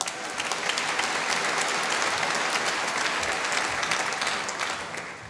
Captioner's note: applause